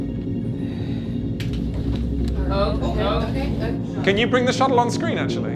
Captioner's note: sighs